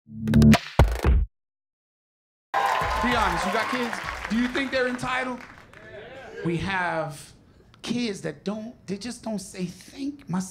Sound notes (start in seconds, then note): 2.5 cheers and applause